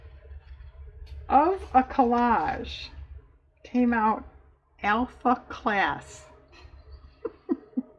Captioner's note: laughs